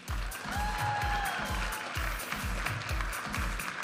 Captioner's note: audience applauding and cheering; upbeat music